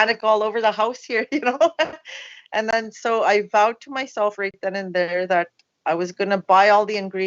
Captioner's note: laughs